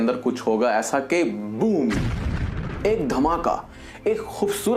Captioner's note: boom